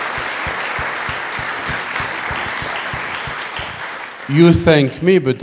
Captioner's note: audience applauding